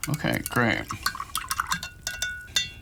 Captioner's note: brush clinking